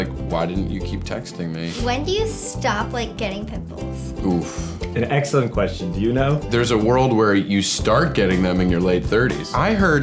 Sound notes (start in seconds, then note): none